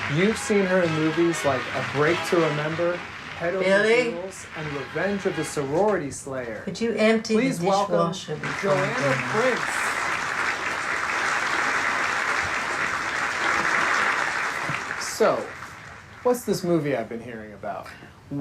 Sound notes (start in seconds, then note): 9.9 audience applauding